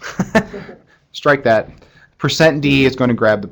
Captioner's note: laughter